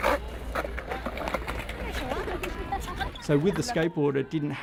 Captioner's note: skateboard clatters; laughing